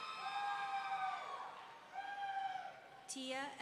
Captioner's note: audience cheering; audience member whooping